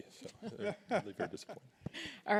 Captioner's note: laughs